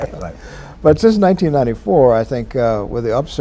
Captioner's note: laughter